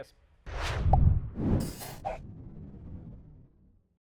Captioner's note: whooshing